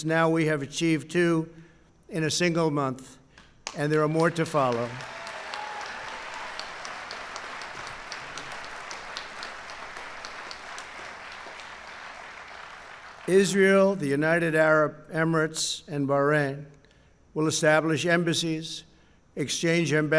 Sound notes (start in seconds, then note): 3.6 applause